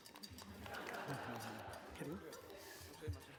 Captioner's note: laughter